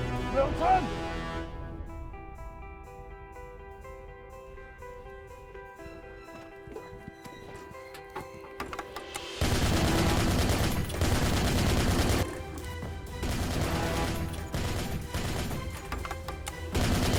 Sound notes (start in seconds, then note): 9.4 gun fires repeatedly; 13.0 rapid gunfire continues